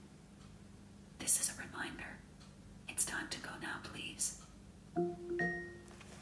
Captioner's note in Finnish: whisper